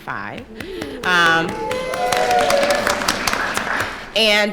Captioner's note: applause